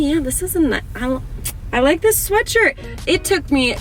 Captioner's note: smacks